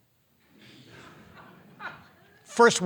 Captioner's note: audience laughing